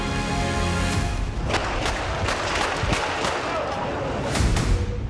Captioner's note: gunshots firing